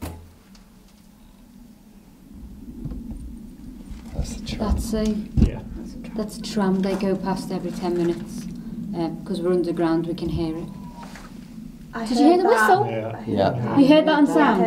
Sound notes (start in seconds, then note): 10.4 faint crying